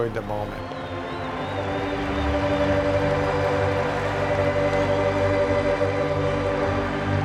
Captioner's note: fans cheering; bright organ music